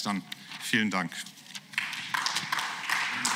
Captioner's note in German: Beifall